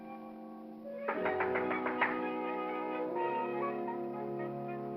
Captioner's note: soft music; knocking on glass; whimsical music